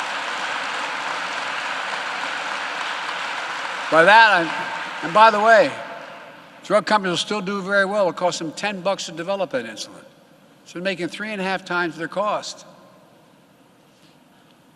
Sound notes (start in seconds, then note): 3.2 applause